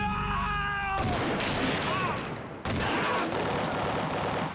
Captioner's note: gunshot rings